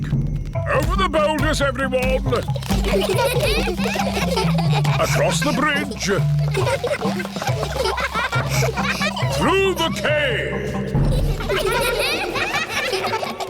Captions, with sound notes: Over the boulders, everyone. (CHILDREN GIGGLING) Across the bridge. (ECHOING) Through the cave.